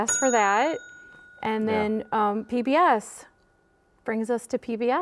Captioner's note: bell rings